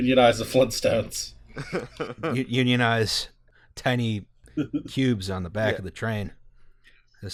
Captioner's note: laughter